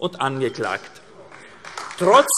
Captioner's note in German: Beifall AfD